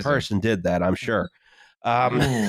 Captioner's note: laughs